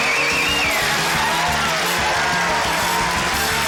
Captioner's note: cheering, applause